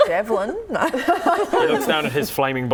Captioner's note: laughing